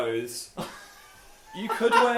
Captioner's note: laughs